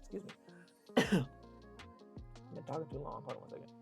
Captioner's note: coughs